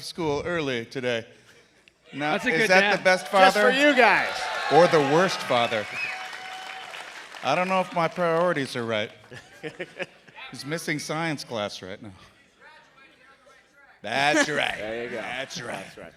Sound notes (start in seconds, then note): 9.0 cheers and applause